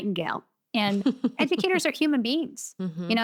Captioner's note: chuckles